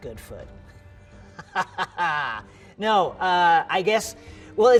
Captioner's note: laughs